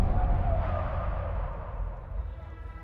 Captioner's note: tires screeching